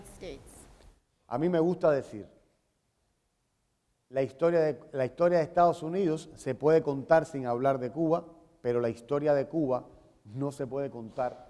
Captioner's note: speaking in Spanish